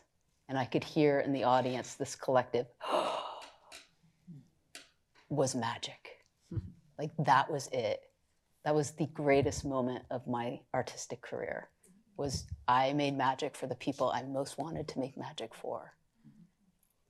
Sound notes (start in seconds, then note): 2.8 gasps